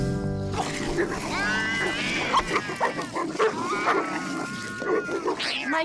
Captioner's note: dog barks; dogs bark and growl, cat yowls